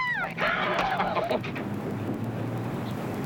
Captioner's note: chuckling